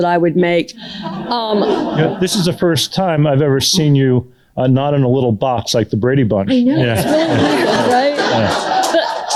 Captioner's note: laughter